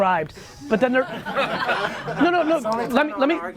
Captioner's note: crowd laughs